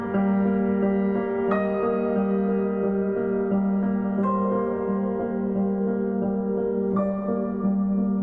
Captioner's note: none